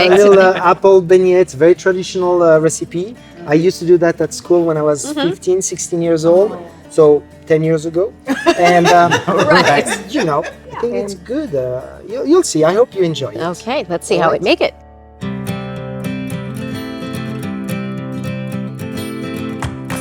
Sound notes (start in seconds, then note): 8.3 laughing; 15.3 upbeat music